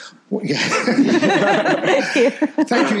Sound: people laughing

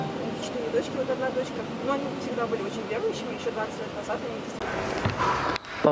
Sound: speaking foreign language

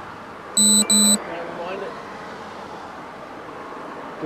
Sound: radio buzz

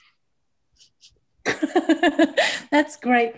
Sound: laughter

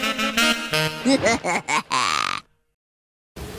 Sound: cackling

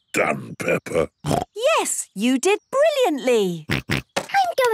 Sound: snorts

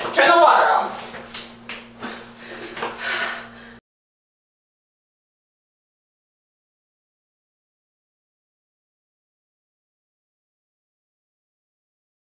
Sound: breath of relief

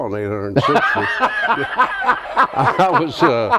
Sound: laughs

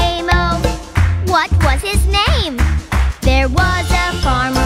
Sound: clap

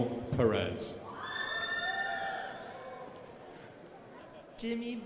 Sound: crowd applauding

